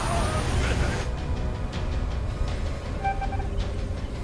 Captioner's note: machine beeping